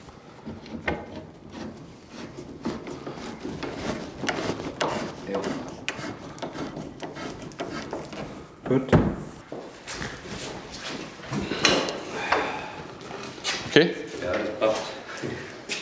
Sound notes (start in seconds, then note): 4.1 knock; 12.1 groan